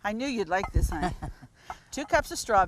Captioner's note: laughs